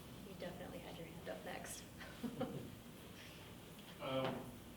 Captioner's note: laughs